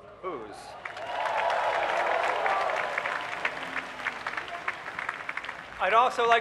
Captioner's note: cheering